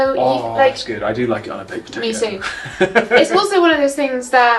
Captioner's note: laughing